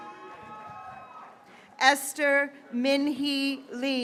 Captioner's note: graduates cheering